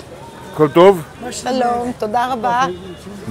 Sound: Speaking Hebrew

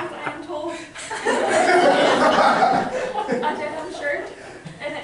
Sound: laughter

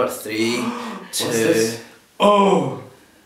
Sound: gasp

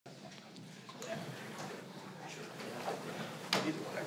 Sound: people talking

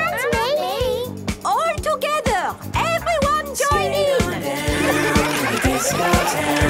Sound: laughter

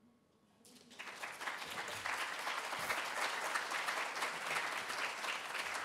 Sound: applause

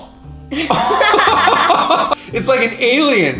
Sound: laughing

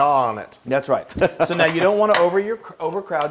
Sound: laugh

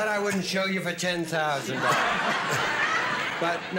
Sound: laughter

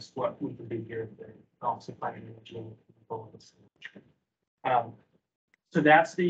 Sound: speaking faintly

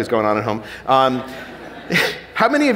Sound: audience laughing

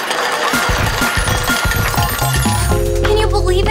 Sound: ringing

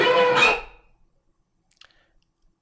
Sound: screams

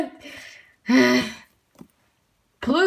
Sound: the ultimate exhausted Breathe

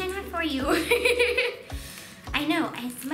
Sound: laughing

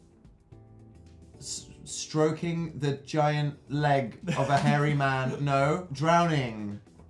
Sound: giggles

